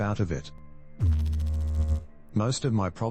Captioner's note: electrical noise